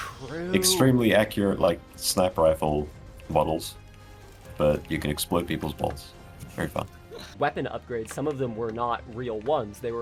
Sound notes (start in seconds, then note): 6.9 ball-busting chuckle